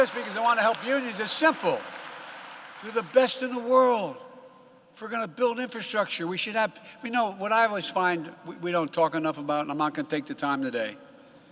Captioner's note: applause